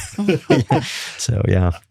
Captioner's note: laughing